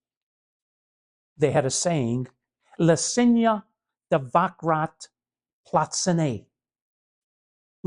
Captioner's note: speaks Slovakian